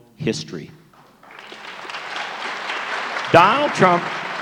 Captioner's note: applause